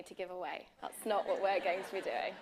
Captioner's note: laughter